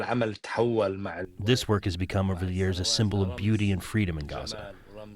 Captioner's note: through translator